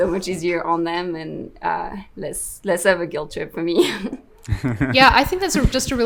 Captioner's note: laughs